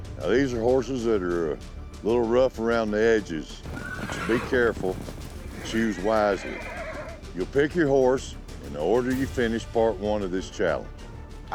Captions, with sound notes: NOW THESE ARE HORSES THAT ARE A LIL' ROUGH AROUND THE EDGES SO BE CAREFUL AND CHOOSE WISELY. [HORSE NEIGHING WILDLY] YOU'LL PICK YOUR HORSE IN THE ORDER YOU FINISHED PART 1 OF THIS CHALLENGE.